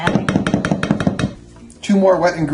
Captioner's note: clanging on bowl